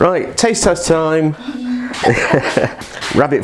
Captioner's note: laugh